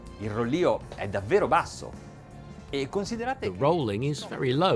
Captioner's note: speaking in a foreign language